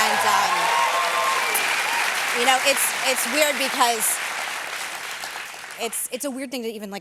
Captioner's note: cheers and applause